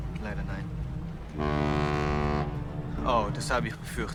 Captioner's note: ship's horn sounds